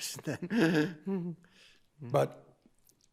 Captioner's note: chuckling